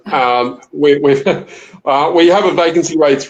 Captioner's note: laughs